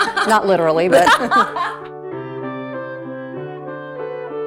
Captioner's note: laughs